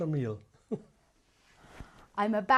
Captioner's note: laughs